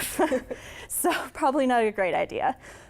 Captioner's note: laughter